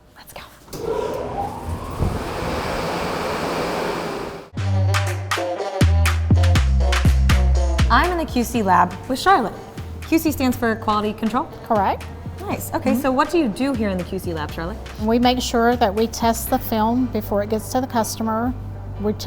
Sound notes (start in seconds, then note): 0.7 whooshing air jets; 4.5 upbeat music